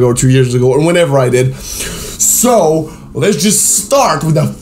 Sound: breathes in

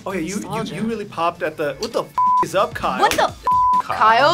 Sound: beep

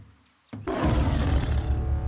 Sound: roar

